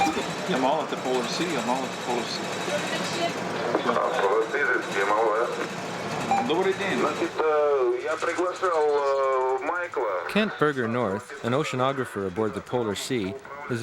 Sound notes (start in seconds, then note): 3.9 Yamal crew member transmitting Russian over radio; 6.5 speaking Russian; 7.3 Yamal crew member transmitting Russian over radio